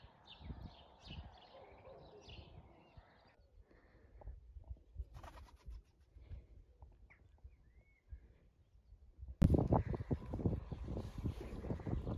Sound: sound of birdsong And farmyard animals

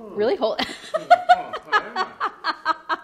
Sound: laughs

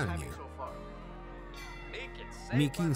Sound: bell ringing

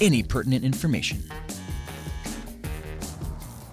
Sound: buzzer

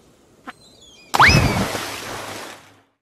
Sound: splash

